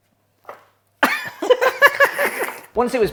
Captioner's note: laughing